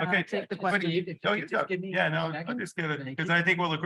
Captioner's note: all chattering